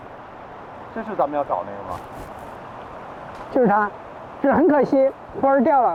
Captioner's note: speaking in foreign language